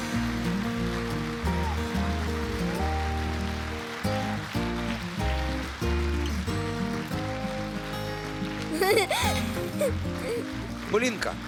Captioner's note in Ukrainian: оплески